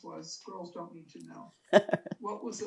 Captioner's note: laughing